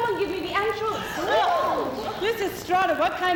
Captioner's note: women gasp